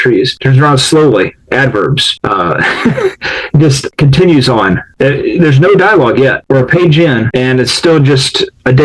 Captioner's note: laughs